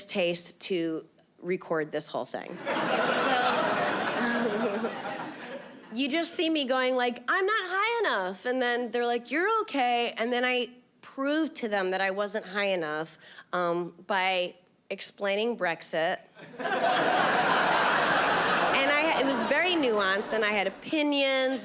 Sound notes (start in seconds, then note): 2.6 chuckles; 16.4 audience laughing